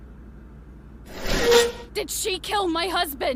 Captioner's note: chair scrapes